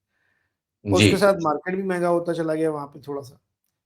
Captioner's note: clears throat